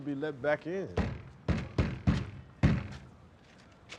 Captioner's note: banging